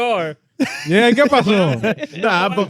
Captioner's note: speaking In Foreign Language